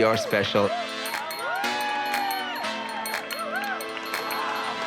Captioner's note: crowd cheering